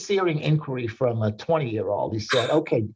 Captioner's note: chuckling